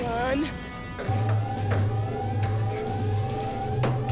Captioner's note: alarms blaring